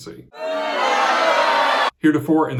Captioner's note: crowd shouting